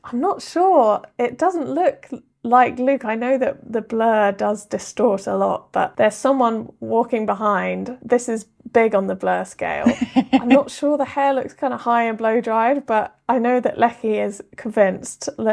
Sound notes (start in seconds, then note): 9.8 laughing